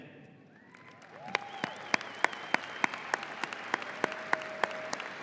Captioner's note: audience applauding